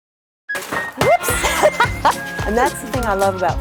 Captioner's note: laughs